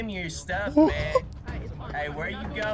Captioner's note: laughs off screen